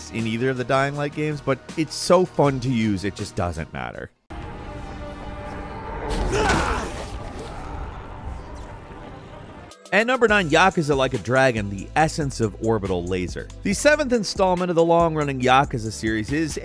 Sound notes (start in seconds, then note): 4.3 solemn music; 4.4 wind whooshing; 6.3 protagonist grunts